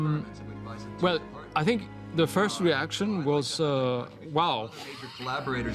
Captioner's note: chuckles